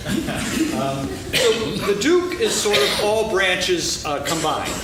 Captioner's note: laughing